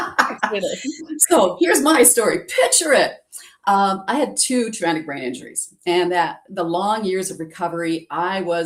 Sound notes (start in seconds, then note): 0.0 laughs